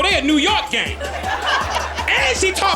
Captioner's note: audience laughing